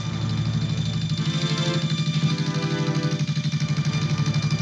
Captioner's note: tractor rumbling